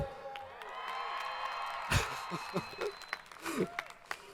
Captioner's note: audience cheering